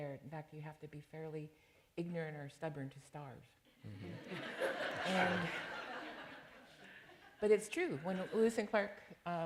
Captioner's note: laughter